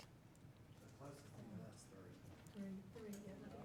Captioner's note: speaking faintly